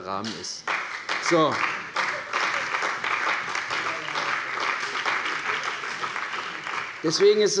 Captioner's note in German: Beifall bei der CDU und dem BÜNDNIS 90/DIE GRÜNEN